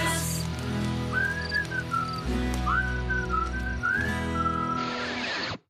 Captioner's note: whistling